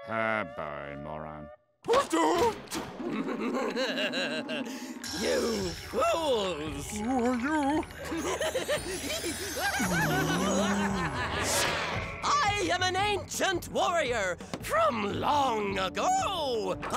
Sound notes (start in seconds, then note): 3.0 chuckles; 8.1 cackling